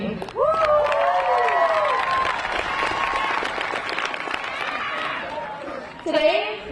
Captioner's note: crowd applauding; graduates cheering